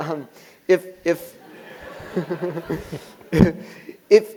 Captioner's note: laugh